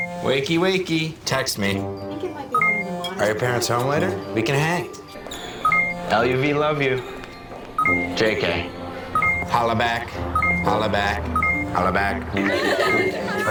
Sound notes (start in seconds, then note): 2.1 chatter; 9.1 beeping